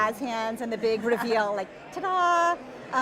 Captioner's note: laughing